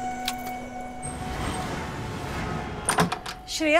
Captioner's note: Vehicles on the road; Door opens